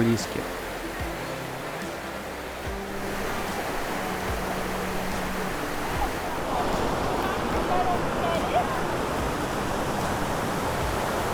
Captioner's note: waterfall noise